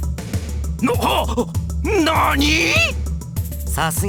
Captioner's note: gasp